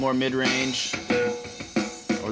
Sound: pitch lowers

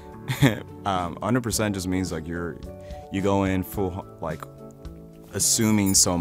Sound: laughs

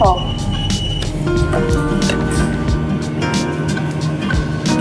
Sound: machine roaring

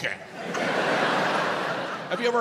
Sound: audience laughs

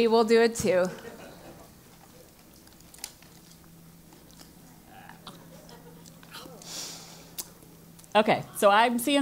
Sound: laugh

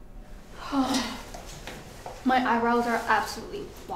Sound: jenna sighs

